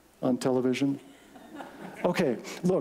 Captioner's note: laughter